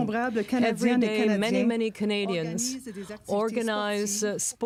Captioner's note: speaking french